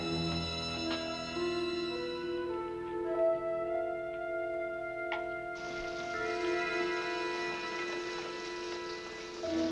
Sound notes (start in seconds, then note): 5.5 bath water running